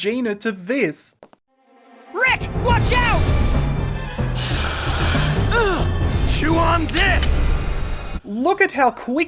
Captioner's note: Raptor snarling